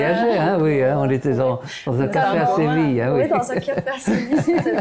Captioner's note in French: rires